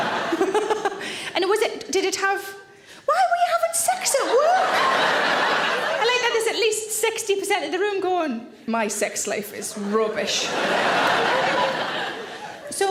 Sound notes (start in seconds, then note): 0.3 Sarah laughs; 4.3 audience laughs; 9.7 audience laughs